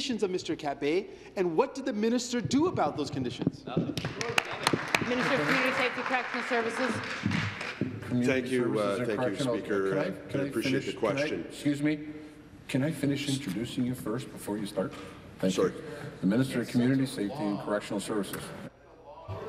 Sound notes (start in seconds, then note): 7.6 applause